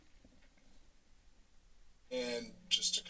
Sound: silence

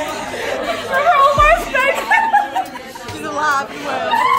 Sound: laughing; hysterical laughing

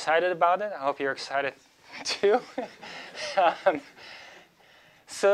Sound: laughs

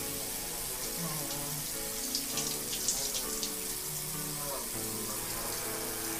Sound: man hums

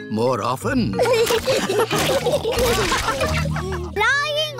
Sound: all laughing

